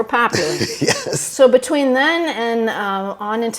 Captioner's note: chuckles